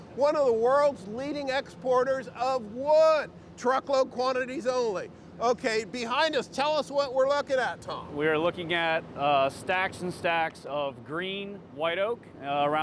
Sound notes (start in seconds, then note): none